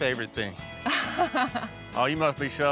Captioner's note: chuckling